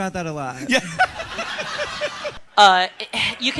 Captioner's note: audience laughs